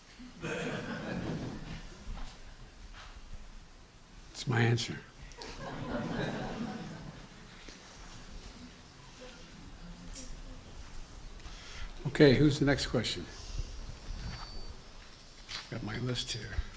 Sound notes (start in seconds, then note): 0.1 laughter